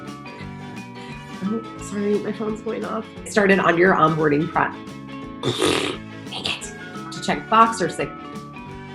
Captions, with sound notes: Sorry, my phone's going off. Started on your onboarding (speaks gibberish) dang it. To check Voxer,